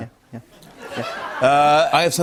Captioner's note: laughter